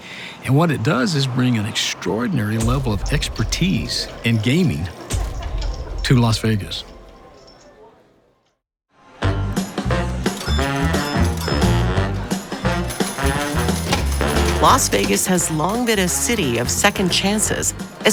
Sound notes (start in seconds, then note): 9.2 upbeat big band music; 9.5 slot machines clanging